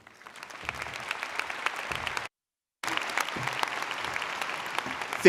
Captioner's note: audience applauding